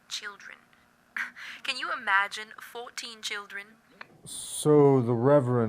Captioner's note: laughs